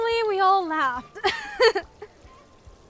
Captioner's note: chuckles